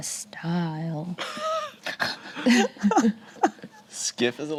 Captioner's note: group laughs